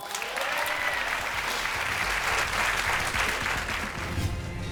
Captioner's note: crowd cheering